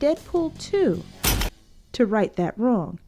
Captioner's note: gun shot